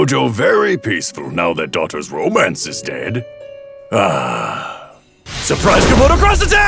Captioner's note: sighs